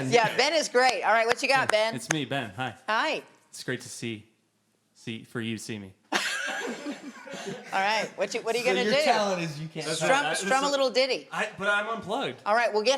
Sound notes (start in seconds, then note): 6.1 all chuckling